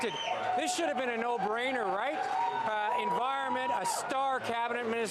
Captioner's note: cheers/Applause